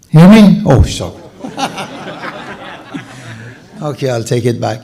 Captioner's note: laughter